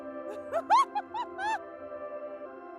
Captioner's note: laughter